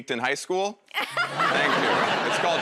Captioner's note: laughs